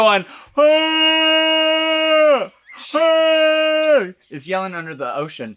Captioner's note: Trinity The Tuck vocalises